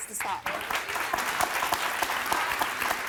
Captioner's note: applause